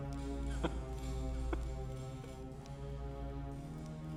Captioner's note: chuckling